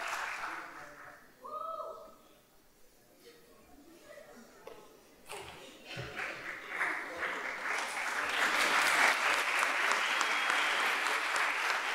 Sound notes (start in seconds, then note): 1.8 chattering off mic; 8.5 audience applauding